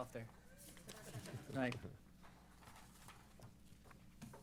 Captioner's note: laughs